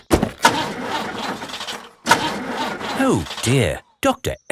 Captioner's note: engine sputtering